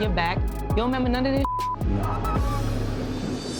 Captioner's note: beep